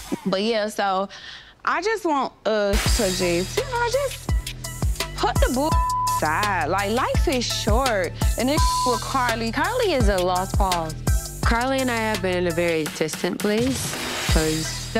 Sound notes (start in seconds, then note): 5.5 beep; 8.6 beep